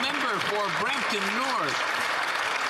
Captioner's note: some Applause